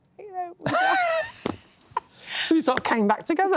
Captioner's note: laughter